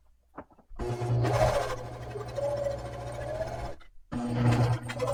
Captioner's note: machine buzzing